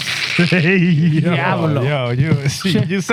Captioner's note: speaking Spanish